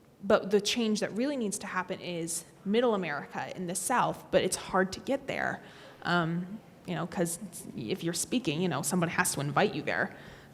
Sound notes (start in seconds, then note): none